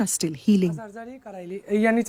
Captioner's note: speaking Gujarati